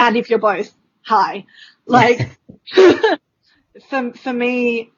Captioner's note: laughs